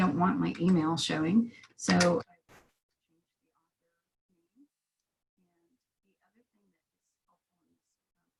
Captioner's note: brief sound interruption